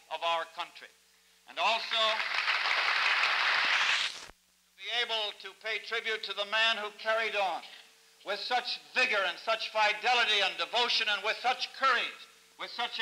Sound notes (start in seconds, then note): 1.7 applause